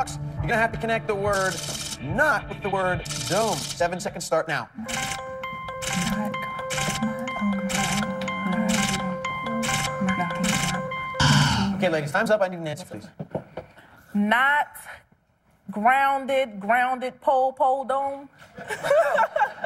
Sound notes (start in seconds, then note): 4.7 whispering; 9.6 buzzer